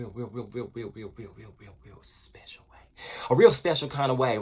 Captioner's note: whispering